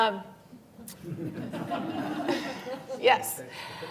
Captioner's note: laughter